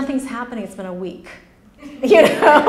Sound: laughs; laughter

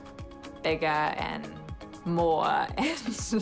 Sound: chuckles

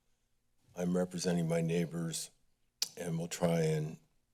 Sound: clicks tongue

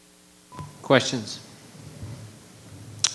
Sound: microphone beeping

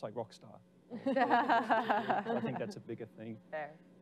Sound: laughing

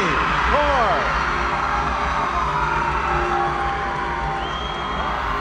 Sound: audience cheering

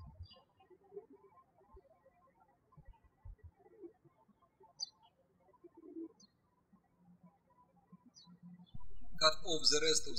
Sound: birds chirping

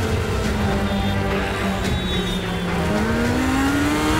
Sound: sirens blaring

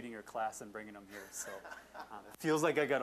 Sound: audience laughing

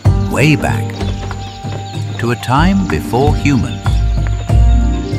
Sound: crickets chirping

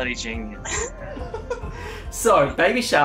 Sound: laughs

